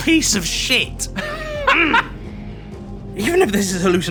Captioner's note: laughs